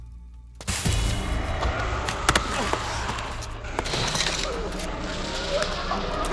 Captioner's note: Max groans; dust slaps